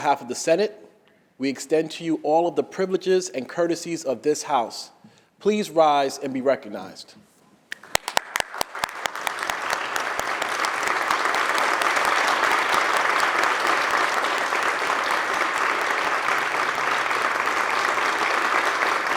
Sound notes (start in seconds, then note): 7.6 applause